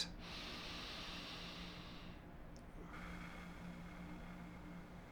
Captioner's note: inhales and exhales